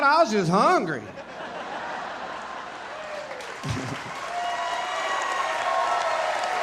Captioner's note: audience laughing, cheering and applauding